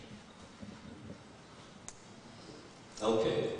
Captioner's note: whispering